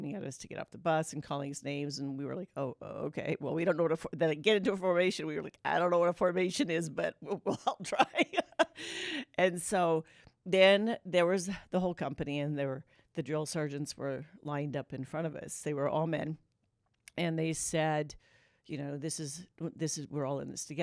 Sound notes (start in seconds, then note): 9.9 laughter